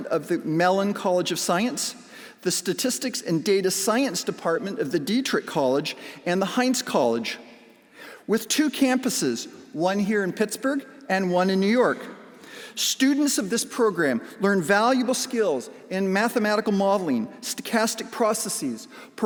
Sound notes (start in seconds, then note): none